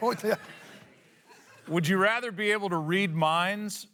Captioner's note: laughs